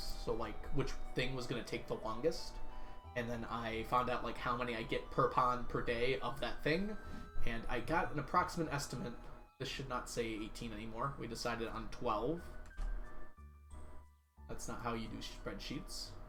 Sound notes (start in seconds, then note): none